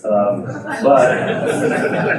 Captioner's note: audience laughing